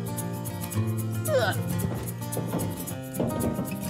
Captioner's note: Clive grunting